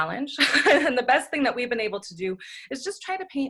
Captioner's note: laughs